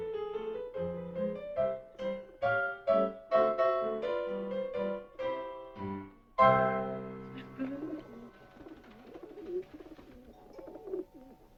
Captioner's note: pigeon cooing